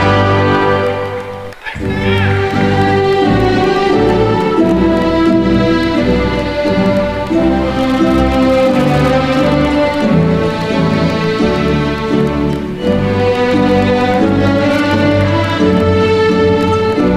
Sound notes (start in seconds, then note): 1.5 attendee cheering; 1.5 ceremonious music